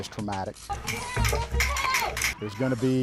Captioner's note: officers yelling